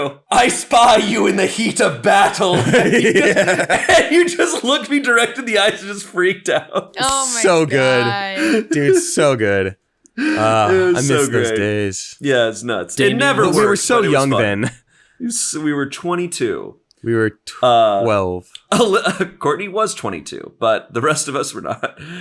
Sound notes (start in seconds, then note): 0.9 laughing; 6.7 laughing; 21.5 laughing